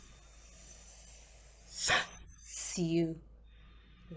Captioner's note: heavy sigh